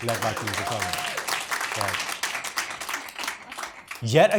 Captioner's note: audience applauds